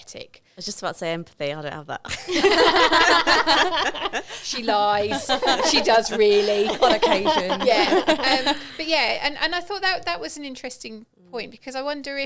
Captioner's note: laughing